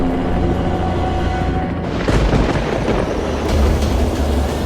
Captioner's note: thunder